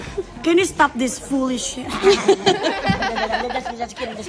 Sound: laughs

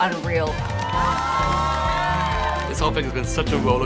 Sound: cheering

